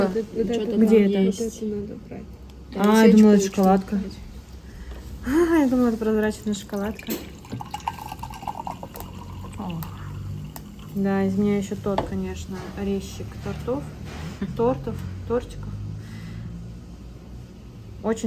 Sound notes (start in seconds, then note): 5.8 pouring tea